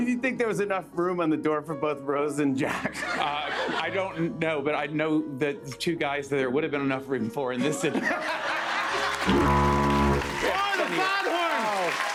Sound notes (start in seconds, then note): 7.6 laughter; 9.0 fog horn blares